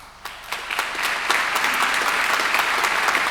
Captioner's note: applause